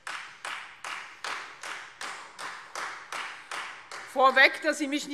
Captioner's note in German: Beifall Freie Demokraten